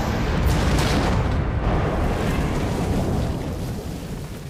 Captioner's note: crash, splintering